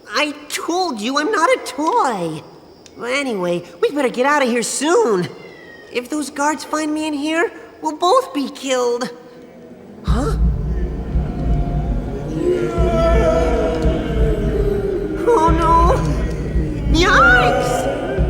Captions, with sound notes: I told you, I'm not a toy! Anyway... we better get out of here soon! If those guards find me in here, we'll both be killed! Huh? (Ominous wails) Oh No! Yikes!